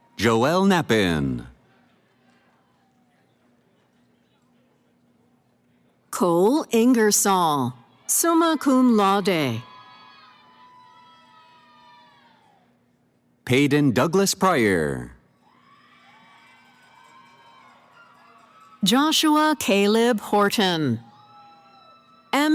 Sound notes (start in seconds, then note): 0.0 cheering; 9.8 cheering; 15.4 cheering